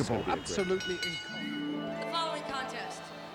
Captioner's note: bell rings